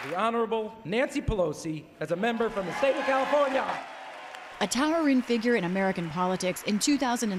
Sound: applause

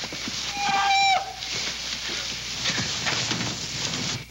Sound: Olaf screaming

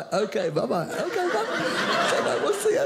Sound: audience laughing

